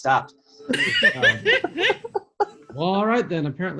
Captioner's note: laughing